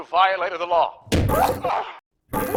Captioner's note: smash